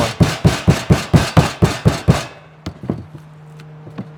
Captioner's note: pounding